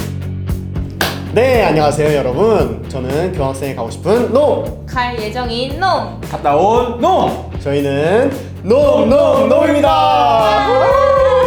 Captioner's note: clap